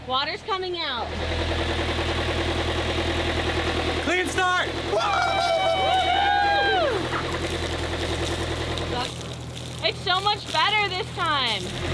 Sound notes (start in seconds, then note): 4.9 screaming; 6.5 boat engine roaring